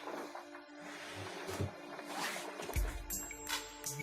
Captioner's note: opening cellar door